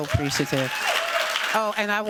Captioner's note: cheers, applause